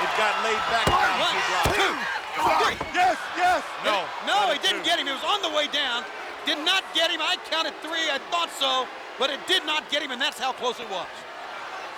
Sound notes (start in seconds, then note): 0.0 crowd yelling